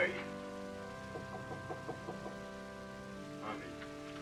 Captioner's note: knocking at door